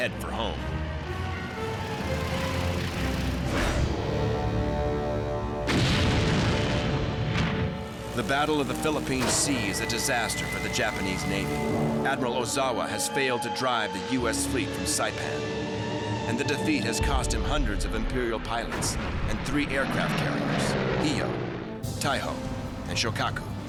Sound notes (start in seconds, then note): 0.1 engines whirring; 5.6 explosion